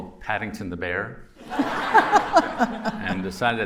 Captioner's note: laughter